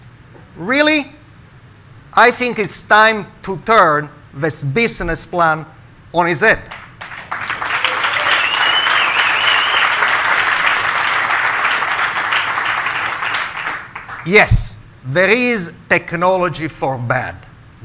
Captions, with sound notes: Really? I think it's time to turn this business plan on it's head. (crowd clapping) Yes, there is technology for bad,